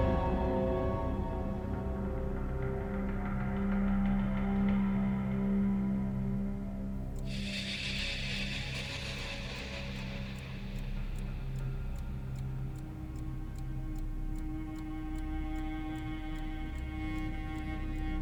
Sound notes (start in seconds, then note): 7.5 eerie music; 12.0 clock ticking; 13.0 tense music